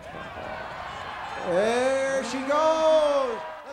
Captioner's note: crowd cheers